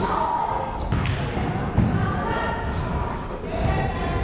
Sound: crowd chattering

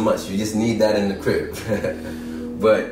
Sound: chuckles

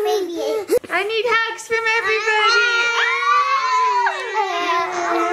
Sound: all squeal

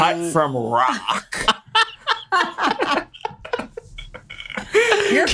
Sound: laughter

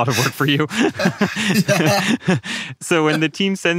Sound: both laughing

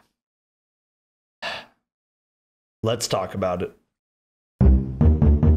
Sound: sigh

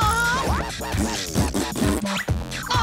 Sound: blowing raspberries

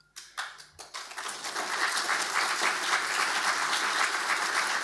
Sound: audience applauding

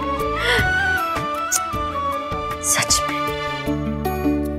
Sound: kissing

